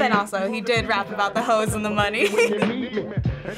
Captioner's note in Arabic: يضحك